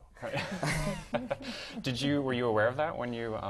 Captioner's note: laugh